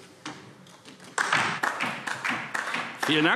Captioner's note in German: Beifall DIE LINKE